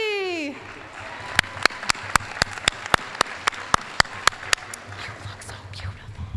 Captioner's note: applause